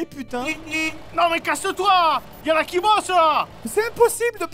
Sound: beep Beep

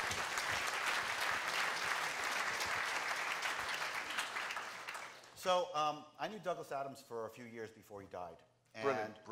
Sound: applause

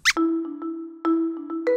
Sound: squeaks squeaks

